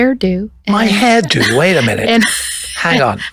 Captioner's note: laughing